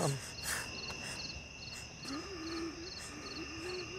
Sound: leaves rustling outside; low, guttural weezing growl from outside tent

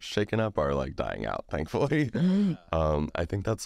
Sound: laughs

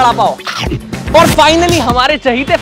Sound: munching

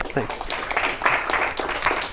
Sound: applause

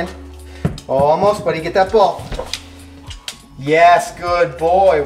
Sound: thumping

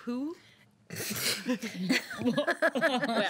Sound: girls laughing

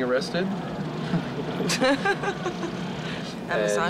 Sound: both laughing

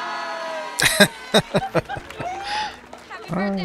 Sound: laughing

